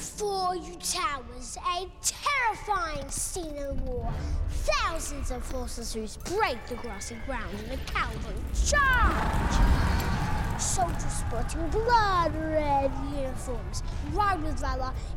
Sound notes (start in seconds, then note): 9.1 hooves beat, men roar